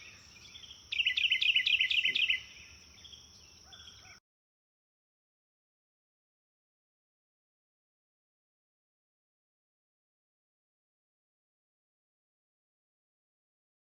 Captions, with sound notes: MARGINAL SPACES AND THE OVERALL UNIVERSITY LEARNING EXPERIENCE. [ BIRDS CHIRPING ]